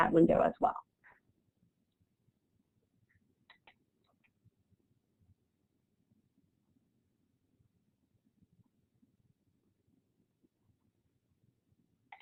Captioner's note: silence